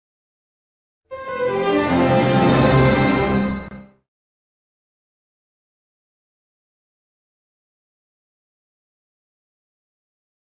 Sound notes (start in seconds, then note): 1.1 orchestral music playing; 5.2 silence